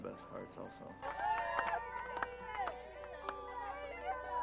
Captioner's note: people cheering